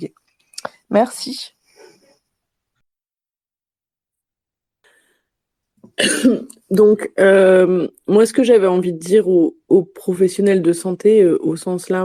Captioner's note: cough